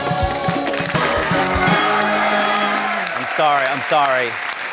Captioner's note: cheering, applause